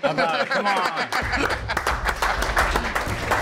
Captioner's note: applause